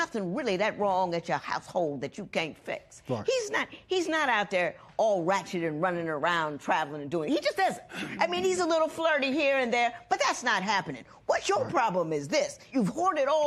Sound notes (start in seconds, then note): none